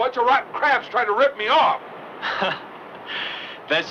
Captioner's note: Mathias laughs